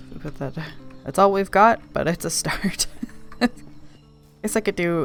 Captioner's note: laughs